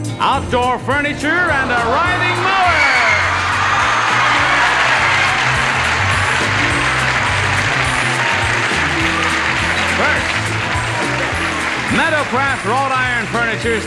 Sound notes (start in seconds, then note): 2.9 audience cheering